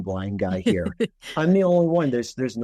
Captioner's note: laughing